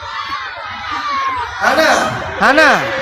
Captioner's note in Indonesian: tertawa; berteriak